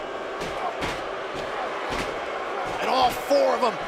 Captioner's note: crowd cheering